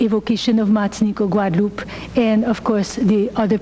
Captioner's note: speaking foreign language